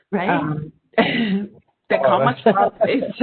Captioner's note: laughing